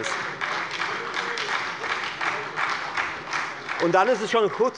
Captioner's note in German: Beifall bei der FDP und der SPD